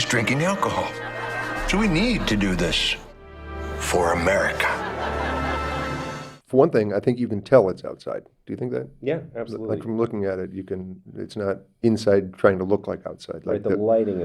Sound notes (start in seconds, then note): 1.6 audience laughs; 5.3 audience laughs